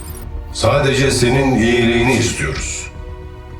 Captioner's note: unknown Echo